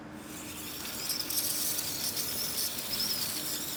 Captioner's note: snaking whirring